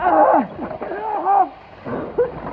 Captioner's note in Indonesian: Mengerang; Mengerang Berlanjut